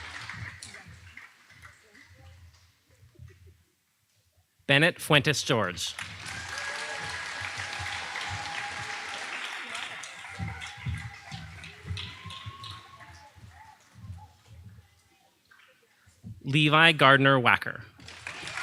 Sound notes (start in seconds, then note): 5.1 audience applauding; 9.3 audience applauding